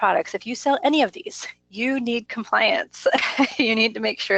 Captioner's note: laughs